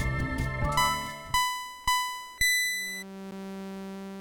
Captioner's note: race start signals from Pitstop